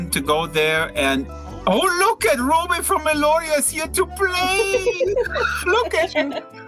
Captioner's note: they laugh